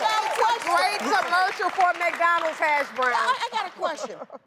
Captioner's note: laughs